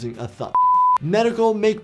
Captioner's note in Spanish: pitido de pantalla